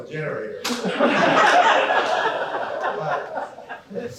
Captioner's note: laughter